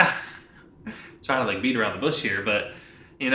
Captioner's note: chuckles